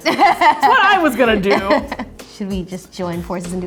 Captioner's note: laughing